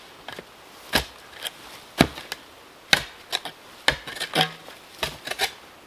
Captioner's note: shovel thumping and rasping